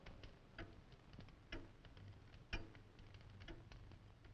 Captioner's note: clock ticking